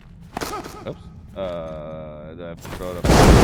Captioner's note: fire crackles